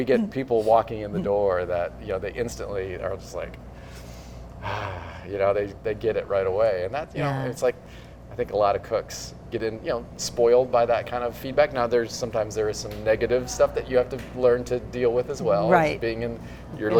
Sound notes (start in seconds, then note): 2.8 sighs of relief